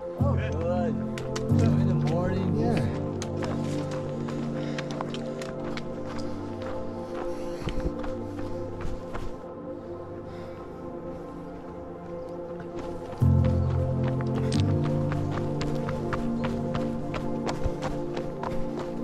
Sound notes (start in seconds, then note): 4.1 footsteps crunching